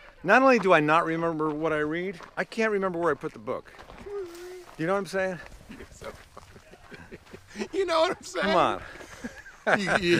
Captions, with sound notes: - Not only do I not remember what I read, I can't remember where I put the book. (Pete laughs) You know what I'm saying? - You're so funny. (laughs) "You know what I'm saying?" - Come on!